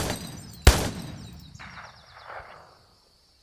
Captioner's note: gun firing